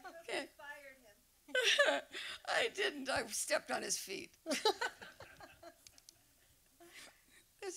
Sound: laughter; laughing; laughter

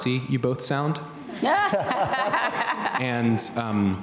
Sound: laughing

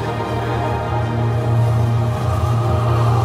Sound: deep whirring

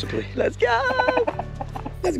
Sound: +bok bok bok rooster sound

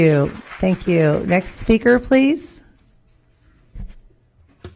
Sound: applause

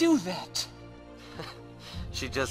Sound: laughs

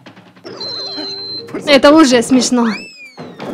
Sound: laughing already

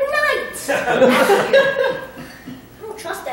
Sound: laughter

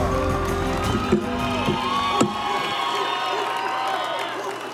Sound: audience cheering

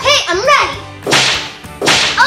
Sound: slams

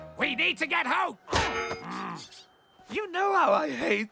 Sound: groaning

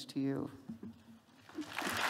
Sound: applause

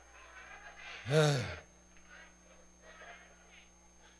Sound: sighs

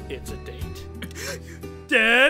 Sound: gasp

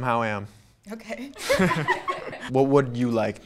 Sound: women laugh

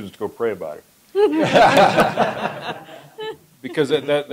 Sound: laughter

